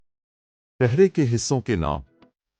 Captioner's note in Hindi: उर्दू में